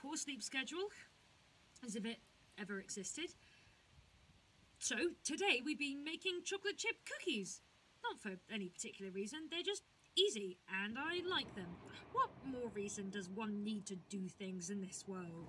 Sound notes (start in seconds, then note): 11.0 distant thunder